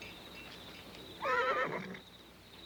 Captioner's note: horse neighs